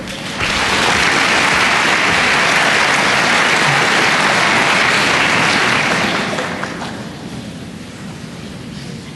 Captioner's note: applause